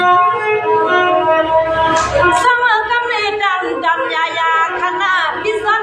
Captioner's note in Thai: ปรบมือ